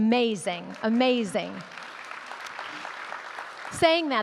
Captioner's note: audience clapping